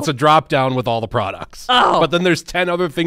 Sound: groans

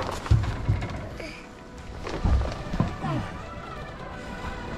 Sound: sighs

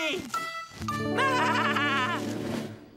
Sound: laughing

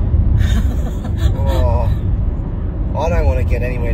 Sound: laughs

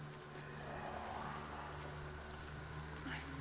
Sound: faint growling

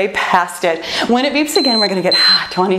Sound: timer beeping

